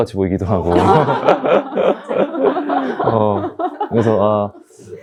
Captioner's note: everyone laughs